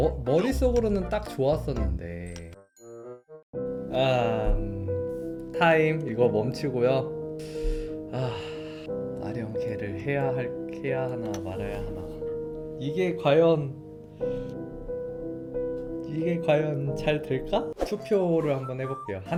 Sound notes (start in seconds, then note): 8.1 sigh